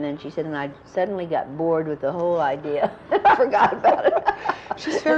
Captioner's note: laughter